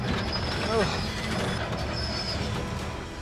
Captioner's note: tractor creaking; groans